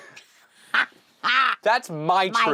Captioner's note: laughter